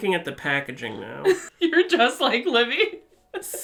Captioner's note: laughs; laughs